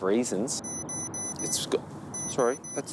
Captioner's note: alarm beeps